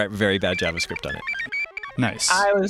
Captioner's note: robot beeping